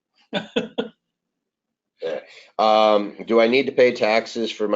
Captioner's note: laughs